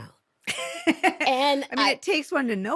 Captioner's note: laughing